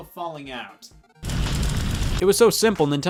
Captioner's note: fire crackling